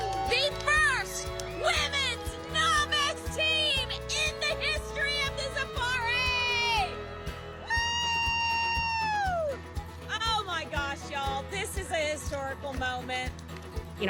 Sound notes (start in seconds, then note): 7.6 people cheering